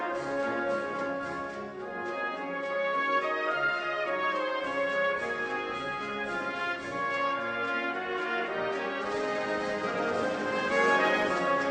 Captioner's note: applause